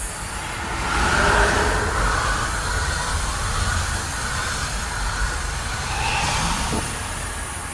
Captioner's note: Ghost Train passing